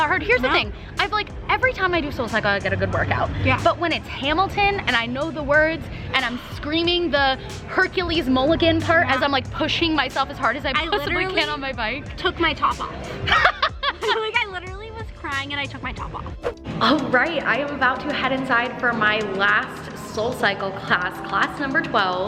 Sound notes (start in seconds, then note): 13.2 laughs